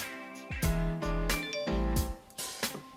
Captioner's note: phone chimes